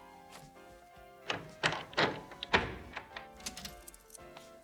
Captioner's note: door opens